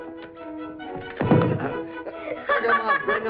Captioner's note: thuds